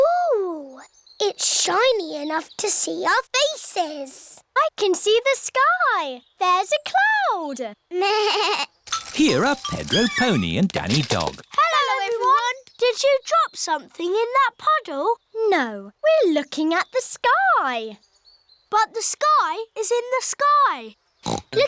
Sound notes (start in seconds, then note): 8.4 bleats